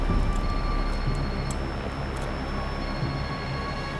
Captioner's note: phone ringing